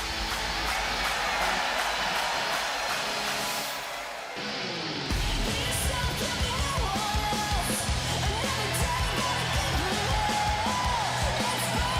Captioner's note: cheers and applause